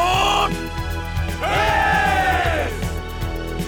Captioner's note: cheers